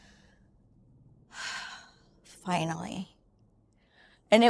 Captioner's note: sighs